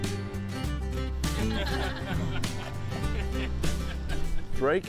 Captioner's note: laughter